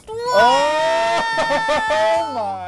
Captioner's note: noise of anticipation; exclaim in surprise